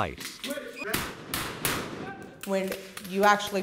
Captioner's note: gun fires